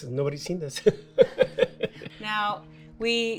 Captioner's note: laughs